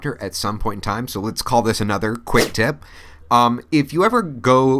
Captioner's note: whooshing sound